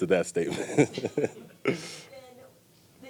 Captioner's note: light laughing